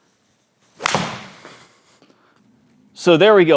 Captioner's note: loud smack